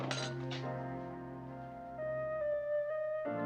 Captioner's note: glass Clinking